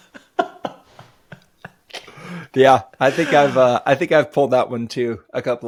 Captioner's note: both laughing